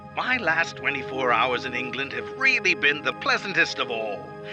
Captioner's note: Voz en off